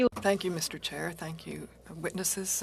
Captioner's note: speaking French